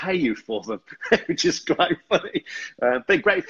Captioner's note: laughs